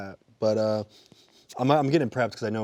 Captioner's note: sniffing